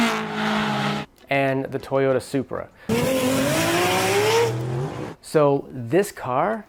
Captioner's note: engine racing